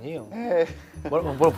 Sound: his cheery voice trembles

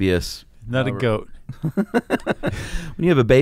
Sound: both laughing

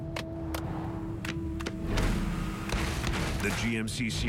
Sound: hand clapping the song

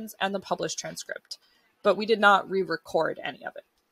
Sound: none

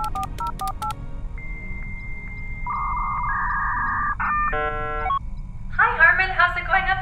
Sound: dial-up modem connecting; boop boop boop

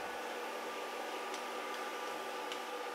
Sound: deep humming

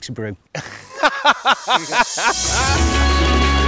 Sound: laughter

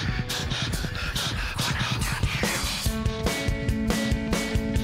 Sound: whispers

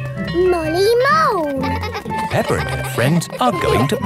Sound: giggling

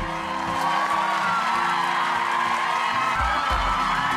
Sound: crowd cheering

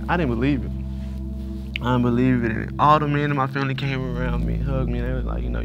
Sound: sniffling

